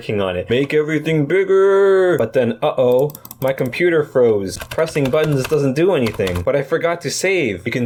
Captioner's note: sound of pressing and clicking buttons